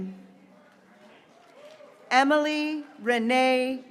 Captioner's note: graduates cheering